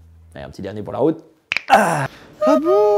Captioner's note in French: craquement d'articulations x9